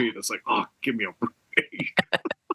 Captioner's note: laugh